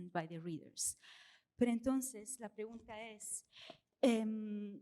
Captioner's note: speaking spanish